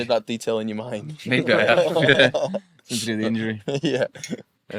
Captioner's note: group laughing